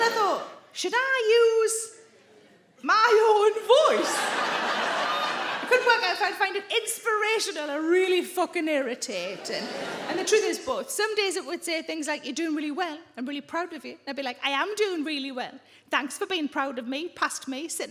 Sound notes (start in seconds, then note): 3.8 audience laughing